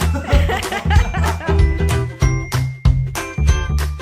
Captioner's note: laughing